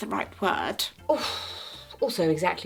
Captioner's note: sighs